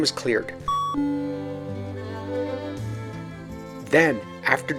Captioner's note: a bell chimes